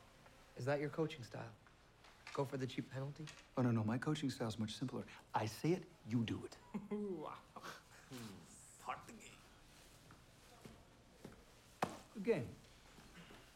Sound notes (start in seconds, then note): 6.6 laughing